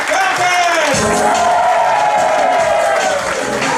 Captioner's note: audience cheering and applauding; groovy music